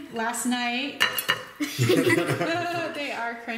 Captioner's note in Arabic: الضحك